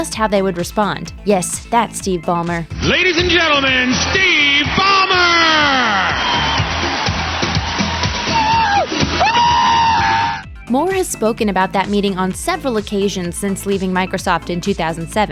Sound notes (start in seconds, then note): 8.6 applause; 9.7 screaming